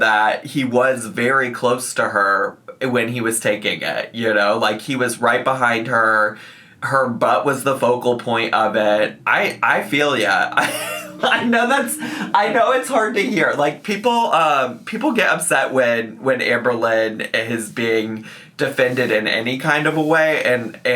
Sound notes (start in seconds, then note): 10.0 laughs